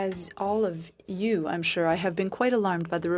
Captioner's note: speaking French